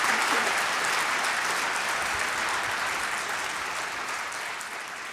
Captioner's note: applause